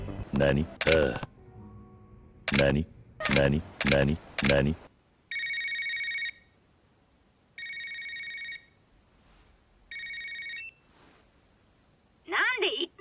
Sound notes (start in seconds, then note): 5.3 phone ringing; 9.9 phone beep; 9.9 phone ringing